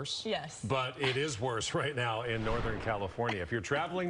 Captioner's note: laughter